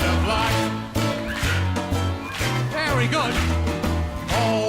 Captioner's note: whistles